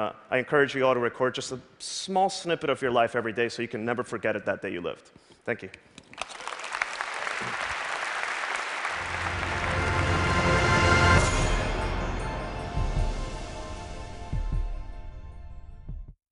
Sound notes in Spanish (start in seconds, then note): 6.0 Aplausos